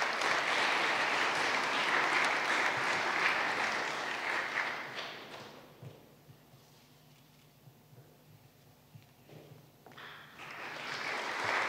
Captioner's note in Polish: oklaski